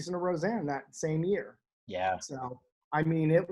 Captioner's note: none